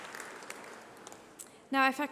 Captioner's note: applause